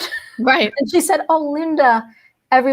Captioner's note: laughs